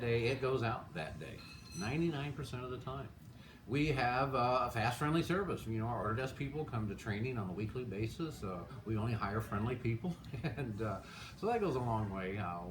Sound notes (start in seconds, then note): 10.1 chuckles